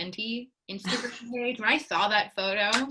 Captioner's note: laughs